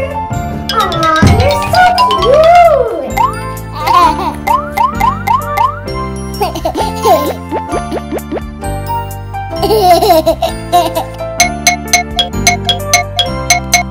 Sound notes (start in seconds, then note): 0.3 cute music playing; 3.9 baby laughing